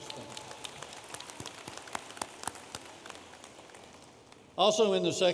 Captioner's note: audience applauding